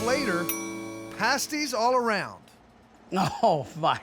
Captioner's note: bell dings